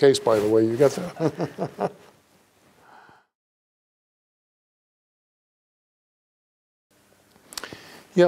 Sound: smiles and laughs

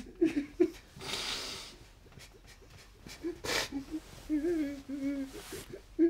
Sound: sobbing continues

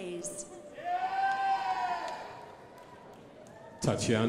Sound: crowd applauding

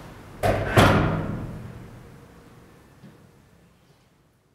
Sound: slamming door

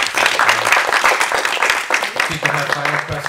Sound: applause

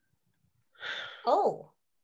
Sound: Bear sighs

